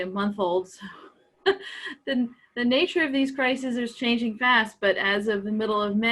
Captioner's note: laughs